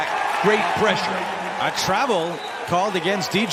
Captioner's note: whistle